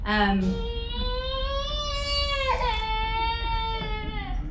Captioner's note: baby crying